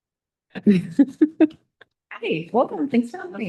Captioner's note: both laughing